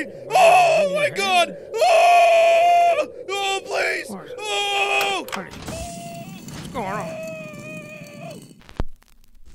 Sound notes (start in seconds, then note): 0.1 screaming; 1.7 pleading; 2.7 even more screaming; 2.7 pleading